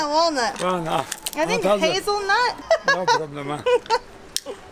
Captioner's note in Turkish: gülüyor